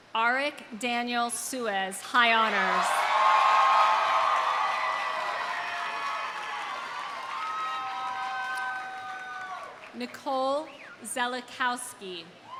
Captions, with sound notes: Arik Daniel Suez, high honors. (audience cheering) (audience applauding) Nicole Szelistowksi.